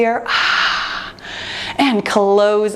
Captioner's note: breathes out